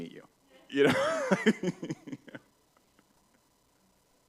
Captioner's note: laughs